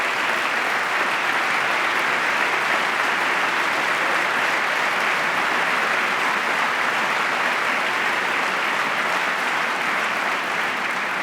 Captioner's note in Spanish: aplauso